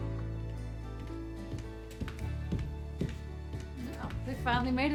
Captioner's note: footsteps approaching